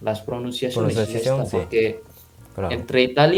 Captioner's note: Spanish